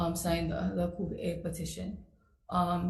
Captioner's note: speaks foreign language